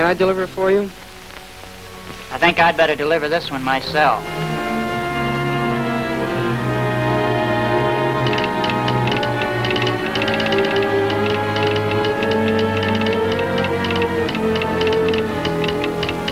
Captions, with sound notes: - Can't I deliver it for you? - I think I'd better deliver this one myself. (dramatic tense music) (telegraph tapping)